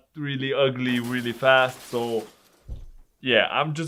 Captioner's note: crashing sound